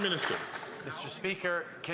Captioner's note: some Applause